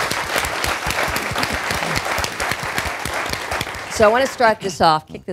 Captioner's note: applause